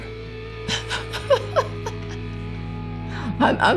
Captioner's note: chuckles